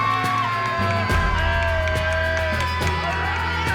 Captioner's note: cheering